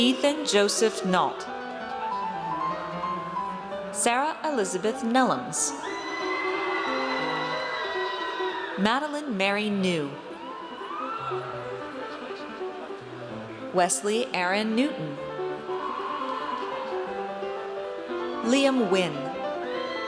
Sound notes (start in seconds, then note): 5.8 audience cheers; 15.6 audience cheers; 19.4 audience cheers